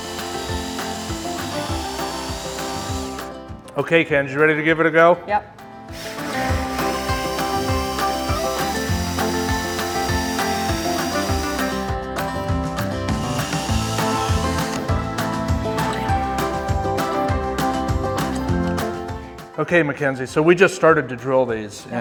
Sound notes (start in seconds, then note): 0.0 drill whirring; 0.0 upbeat music; 5.9 drill whirring; 6.3 upbeat music